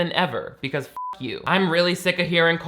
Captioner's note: beep